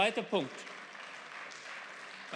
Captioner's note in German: Beifall